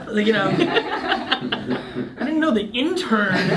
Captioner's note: laughing